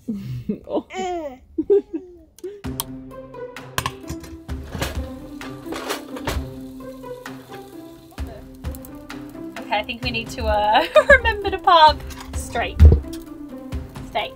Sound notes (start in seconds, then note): 0.1 laughing; 3.2 light instrumental music; 6.9 oil sizzling